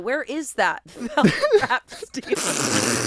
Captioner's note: everyone laughs